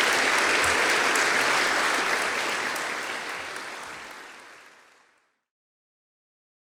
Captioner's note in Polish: Aplauz